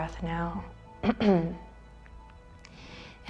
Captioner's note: clears throat